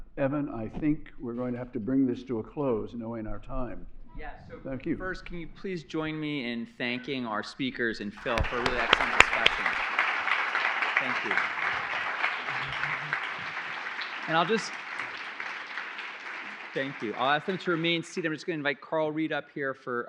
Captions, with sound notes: Evan, I think we're going to have to bring this to a close knowing our time. Yeah. So-- Thank you. --first, can you please join me in thanking our speakers and Phil for a really excellent discussion. [APPLAUSE] Thank you. And I'll just-- thank you. I'll ask them to remain seated. I'm just going to invite Karl Reid up here